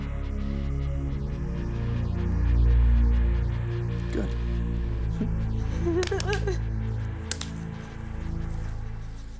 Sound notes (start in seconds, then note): 0.0 suspenseful music; 5.7 whimpering